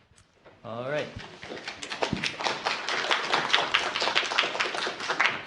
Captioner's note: applause